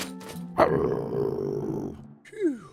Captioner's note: growl